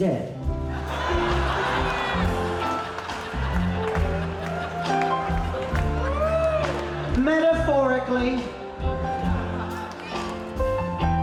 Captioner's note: laughter from the audience